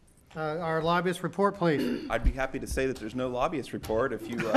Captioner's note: laughter